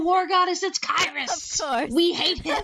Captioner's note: laughing